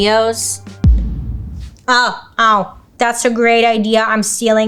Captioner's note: explosion blasts